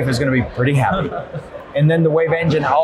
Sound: laughs

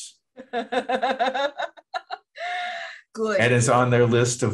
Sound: laughter

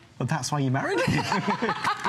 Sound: laughter

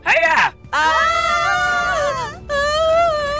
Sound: screams

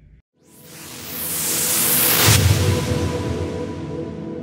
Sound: wooshing

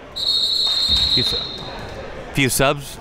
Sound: whistle blows

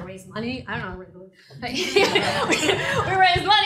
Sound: laughter

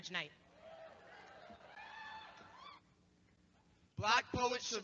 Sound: cheering

